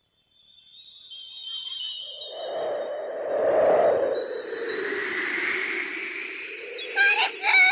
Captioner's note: SFX: sparkling sound